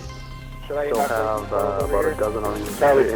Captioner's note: radio chatter